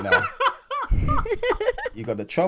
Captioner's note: laughter